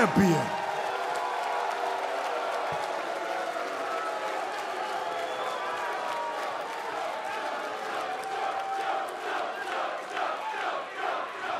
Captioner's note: crowd cheering